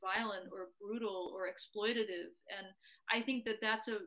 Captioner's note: none